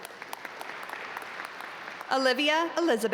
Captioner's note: audience applaud